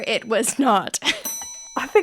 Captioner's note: bell ringing